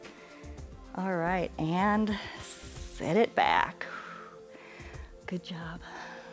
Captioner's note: exhales